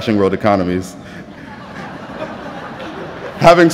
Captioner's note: laughter